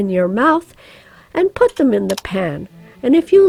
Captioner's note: computer mouse clicks